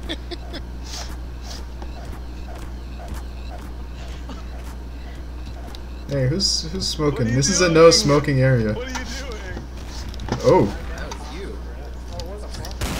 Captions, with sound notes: [hog beating noises continue] hey, who's...who's smoking what are you doing! this is a no smoking area what are you doing ooh! oh, it was you!